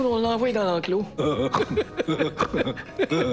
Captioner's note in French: Rires niais